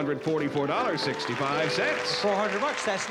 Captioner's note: applause